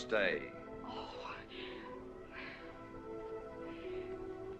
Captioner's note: sighs